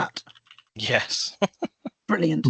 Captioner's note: chuckles